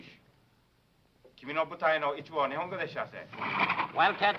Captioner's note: speaking foreign language